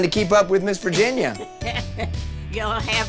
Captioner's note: laughing